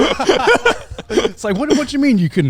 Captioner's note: all laughing